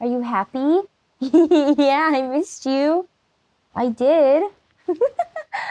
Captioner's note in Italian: versi deliziati e risatine